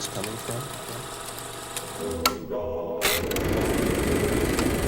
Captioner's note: projector clicking